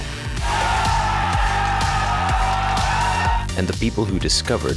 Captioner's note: crowd cheering